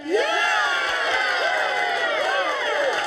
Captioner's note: cheers